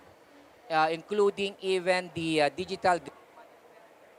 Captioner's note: microphone cuts out